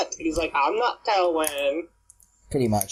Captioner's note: childish voice